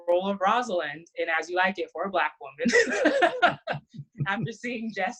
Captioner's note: laughs